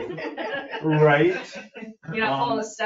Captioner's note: all chuckling